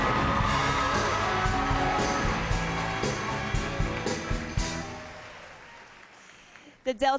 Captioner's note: cheers and applause